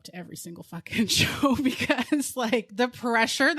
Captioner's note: both laughing